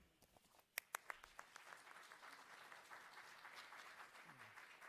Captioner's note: audience applauds